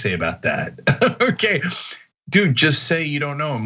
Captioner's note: laugh